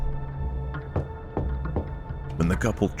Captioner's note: knocking